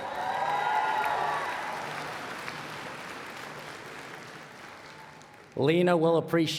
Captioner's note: cheers and Applause